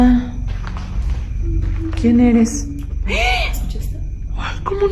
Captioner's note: moans